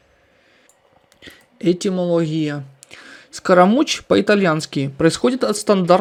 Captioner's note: in Italian